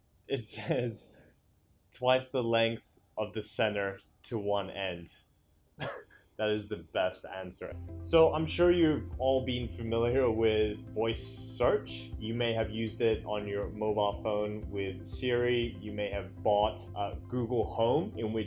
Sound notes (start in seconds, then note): 5.8 laughs